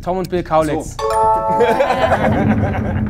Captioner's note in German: Klingeln